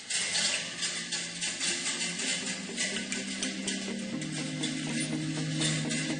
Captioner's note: metal clanking